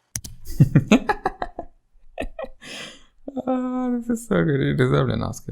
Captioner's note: laughs